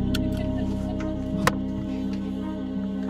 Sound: laughing; seatbelts unbuckling

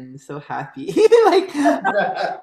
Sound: laughter

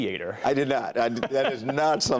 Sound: laughter

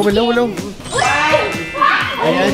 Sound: yelling

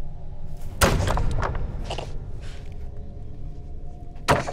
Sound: thudding

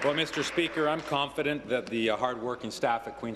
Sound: applause

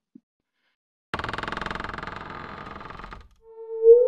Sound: door creak

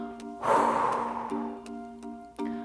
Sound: exhales

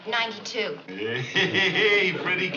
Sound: laughing

